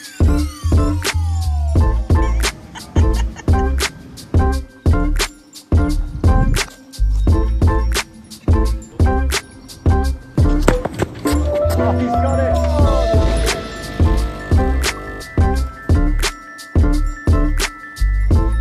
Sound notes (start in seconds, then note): 2.0 chuckling; 5.3 upbeat music; 10.4 ball banging; 14.0 machine whirring